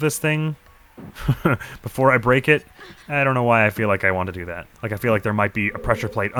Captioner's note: chuckles